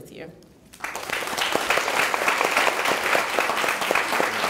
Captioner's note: clapping